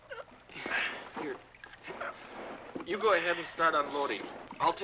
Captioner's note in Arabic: يئن